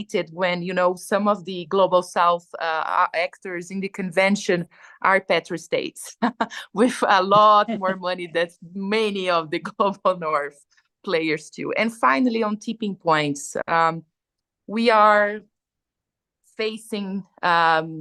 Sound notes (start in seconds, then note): 7.4 laughs